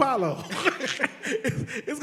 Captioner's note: all laugh